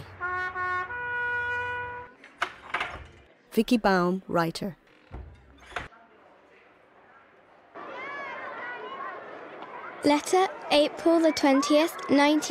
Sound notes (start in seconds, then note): 0.1 trumpet playing; 8.0 crowd murmuring